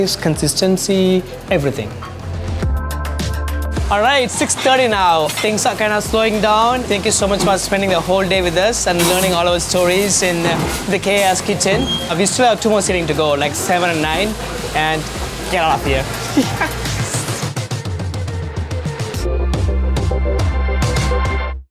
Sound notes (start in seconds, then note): 2.5 cheerful music; 16.1 laughing; 18.1 upbeat inspiring music